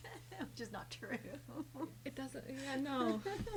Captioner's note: laughs